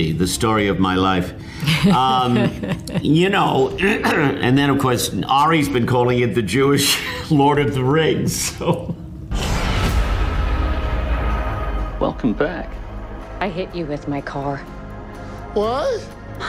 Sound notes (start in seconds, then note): 1.6 Amy laughing; 8.8 laughing